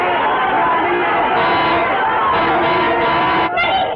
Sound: horn blares

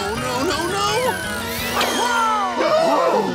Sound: gasps

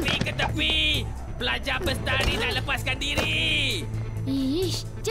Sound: none

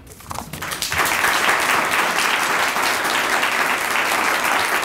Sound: audience applauding

